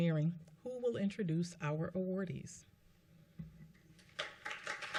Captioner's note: applause